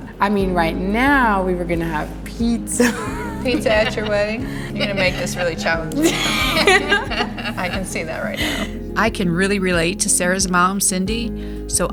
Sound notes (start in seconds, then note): 2.6 laughs; 6.3 laughing